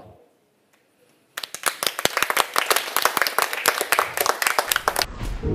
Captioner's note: applause